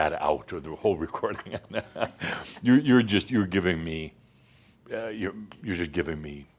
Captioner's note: Adamus chuckles